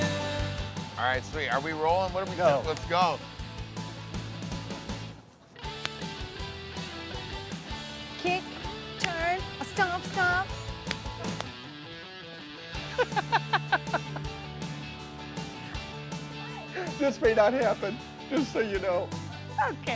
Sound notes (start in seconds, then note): 12.7 chuckling